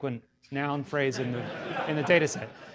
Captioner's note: audience laughter